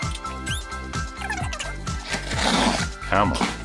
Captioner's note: bright retro music; video whizzing